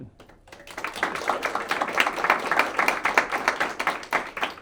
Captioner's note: audience applauding